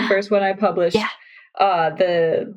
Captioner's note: gasps